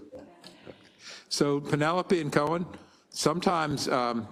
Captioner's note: laugh